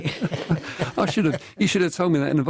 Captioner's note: laughter